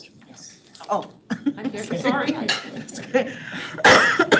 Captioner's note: laughs